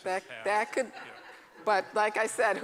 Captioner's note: laughter